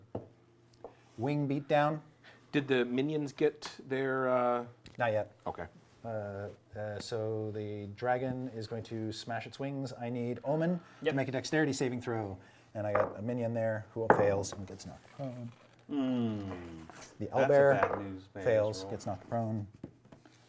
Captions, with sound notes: wing beat down. - Did the minions get their - Not yet. - Okay. - So the dragon is going to smash its wings. I need Omin to make a dexterity saving throw and I've got a minion there who fails. (groaning) - The Owlbear fails, it's now prone.